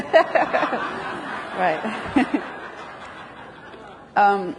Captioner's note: everyone laughs